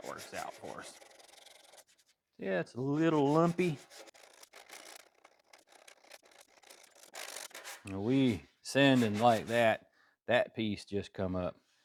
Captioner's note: scraping